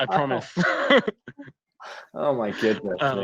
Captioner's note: laughs